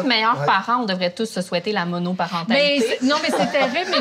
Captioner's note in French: rires